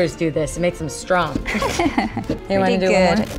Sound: laughs

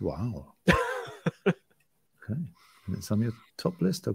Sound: laughing

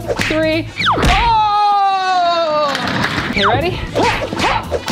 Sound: groans; clanging

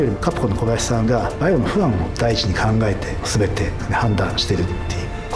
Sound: speaks Japanese

